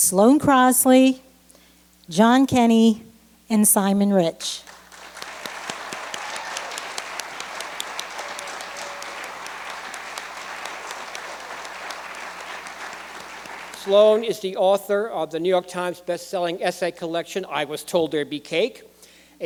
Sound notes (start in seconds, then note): 9.0 applause